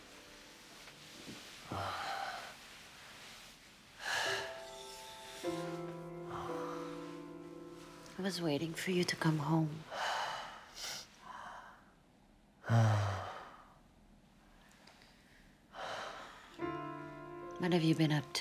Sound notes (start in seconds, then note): 2.1 Rene pants